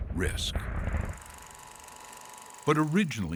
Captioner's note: film projector humming